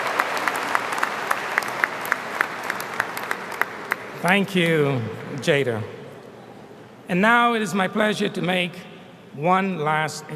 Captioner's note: applause